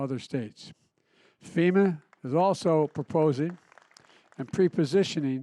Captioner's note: applause